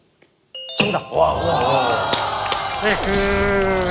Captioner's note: ding-dong-dang